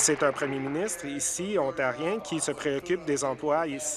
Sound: applause

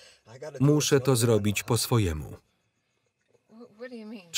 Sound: none

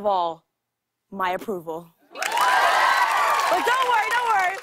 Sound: cheers and applause

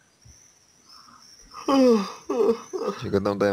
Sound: yawns

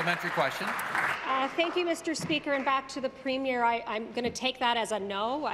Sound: applause

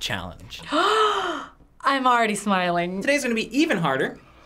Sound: gasps

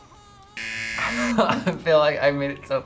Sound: buzzer rings; laughs

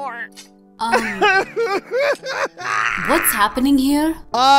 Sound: crying

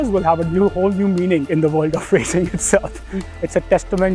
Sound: laugh

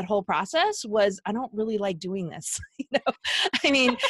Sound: laughing

